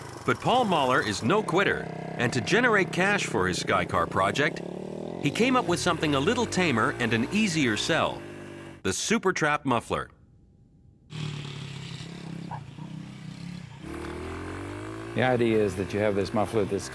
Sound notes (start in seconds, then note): 11.1 motorbike roaring